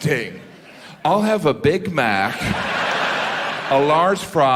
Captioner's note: audience laughing